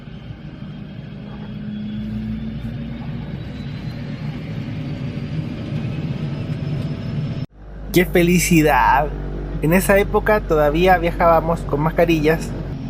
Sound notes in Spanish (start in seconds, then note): 0.0 Encendido de motores del avión DAP